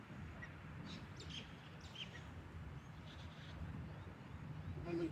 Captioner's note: birds chirping